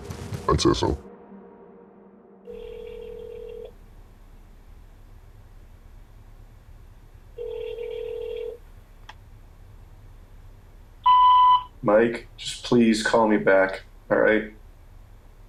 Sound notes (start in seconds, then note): 2.4 phone ringing